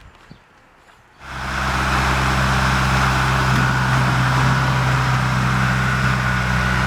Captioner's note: truck engine roaring